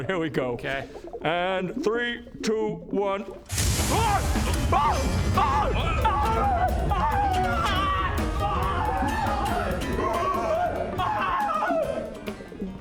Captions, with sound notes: here we go okay And 3 2 1 *WHOOOSH* AHHH! AH! AAAH! AAARAGHAAHH! *screaming* *still screaming*